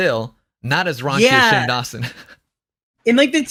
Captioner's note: laughs